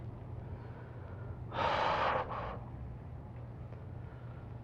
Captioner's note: exhales